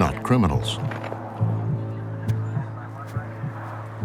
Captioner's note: people talking on radio